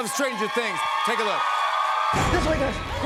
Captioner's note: cheers and applause